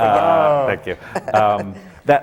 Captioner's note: laughter